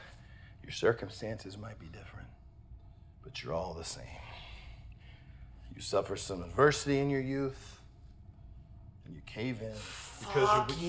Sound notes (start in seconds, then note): none